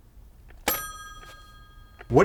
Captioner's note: puts phone away with a ding